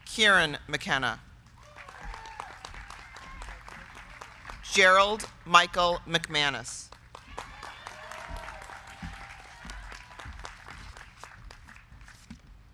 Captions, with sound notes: Kieran Michael McKenna. (crowd cheering) (crowd clapping) Gerald Michael McManus. (crowd cheering) (crowd clapping)